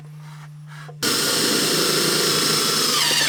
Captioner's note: drilling